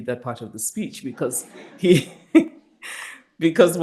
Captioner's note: chuckles